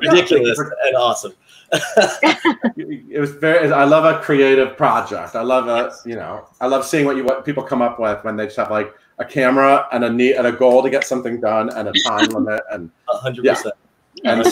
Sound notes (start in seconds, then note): 1.7 laughing